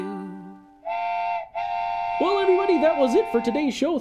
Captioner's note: whistling